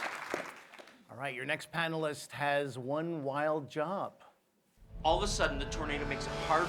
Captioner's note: applause